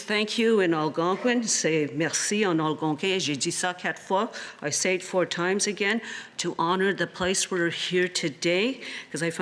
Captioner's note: speaking Alternate Language